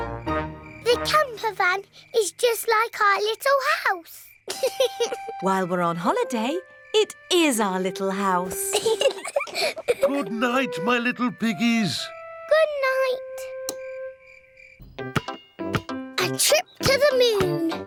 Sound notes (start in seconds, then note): 4.4 george laughs; 8.4 both laugh